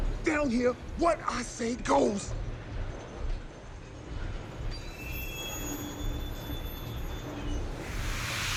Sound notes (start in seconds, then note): 2.4 exhaust hissing; 2.4 metal creaking